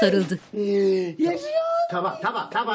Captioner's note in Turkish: Ağlama sesi